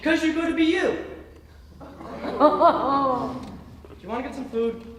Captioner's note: audience oohing in derision